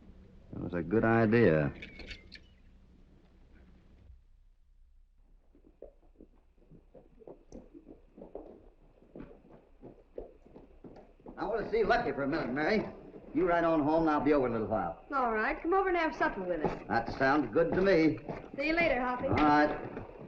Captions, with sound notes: That was a good idea. [ HORSES TROTTING ] I want to see Lucky for a minute, Mary. You ride on home, I'll be over in a little while. All right, come over and have something with us. That sounds good to me. - See you later, Hoppy. - All right.